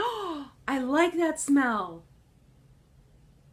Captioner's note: gasps